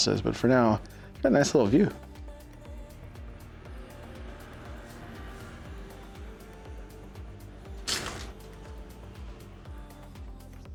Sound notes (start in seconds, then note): 4.8 door opens